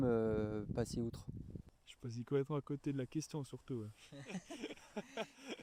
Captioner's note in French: rires